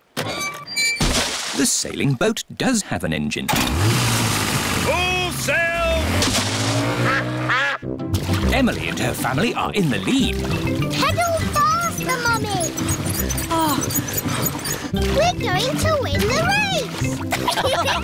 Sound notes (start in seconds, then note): 3.5 engine starts; 12.3 groans